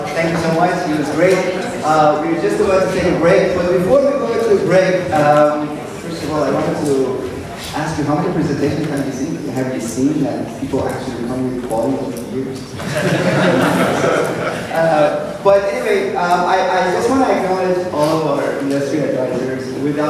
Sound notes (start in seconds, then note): 12.8 laughter